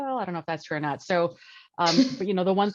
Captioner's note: laughs